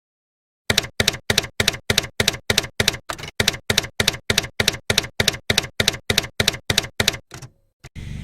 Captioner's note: typewriter keys clacking